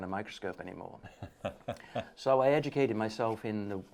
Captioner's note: laughing